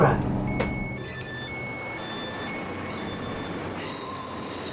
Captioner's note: doors beeping; train engine